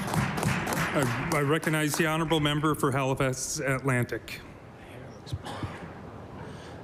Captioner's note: applause